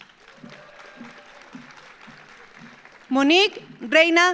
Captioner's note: audience applauds